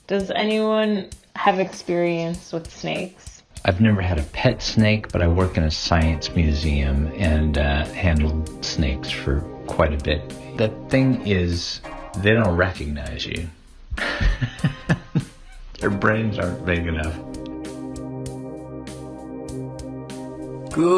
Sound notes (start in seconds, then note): 14.0 laughs; 17.7 upbeat electronic music